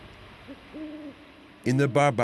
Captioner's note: owl hooting